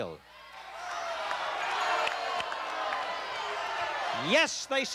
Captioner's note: chatter